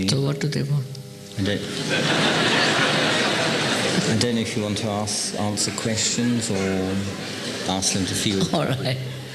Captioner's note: laughter